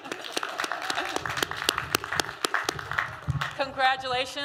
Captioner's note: applause